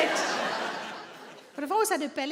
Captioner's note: audience laughing